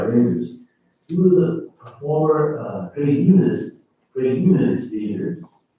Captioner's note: faintly speaking